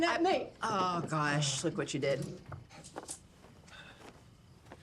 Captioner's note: none